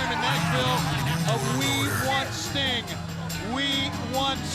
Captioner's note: laughs